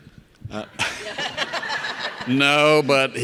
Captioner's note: audience laughing